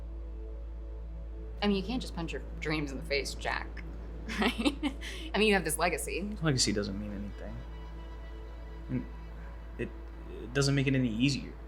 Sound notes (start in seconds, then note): 4.3 laughs